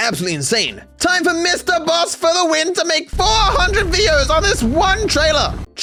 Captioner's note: screaming